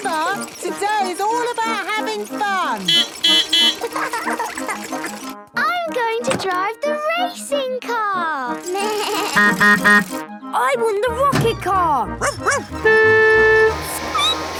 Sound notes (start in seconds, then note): 0.0 beeping; 2.8 beeping; 3.6 laughing; 8.3 bleating; 9.4 honking; 12.2 barking; 12.2 squeaking; 12.5 honking